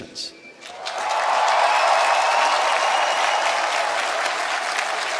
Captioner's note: applause